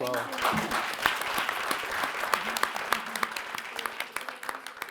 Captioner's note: audience applauding